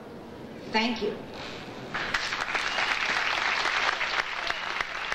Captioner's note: audience applauding